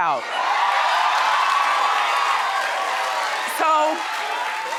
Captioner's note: audience cheering